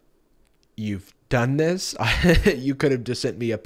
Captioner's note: laughs